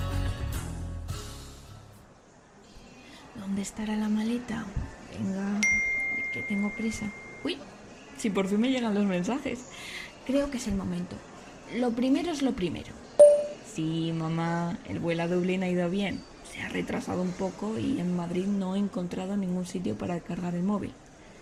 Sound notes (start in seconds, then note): 13.2 sound to send an audio